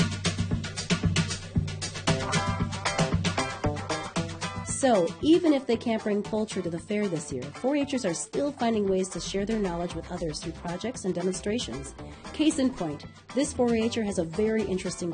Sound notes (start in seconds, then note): 0.2 upbeat music; 4.7 voiceover